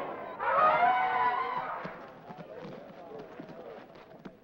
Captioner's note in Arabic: زئير الفيلة